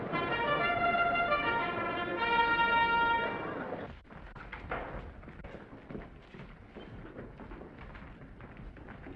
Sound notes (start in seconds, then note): 3.9 footsteps receding